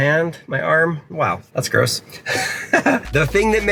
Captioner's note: chuckles